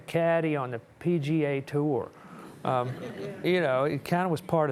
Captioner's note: audience chuckling